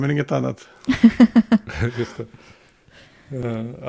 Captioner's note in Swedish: Skratt